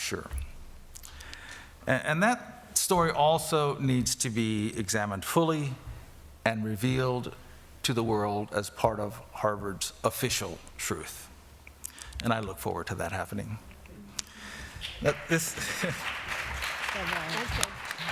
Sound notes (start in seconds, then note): 14.9 applause